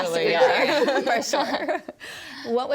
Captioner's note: laughs